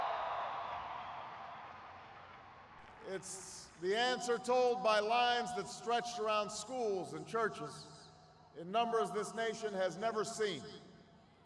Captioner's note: cheering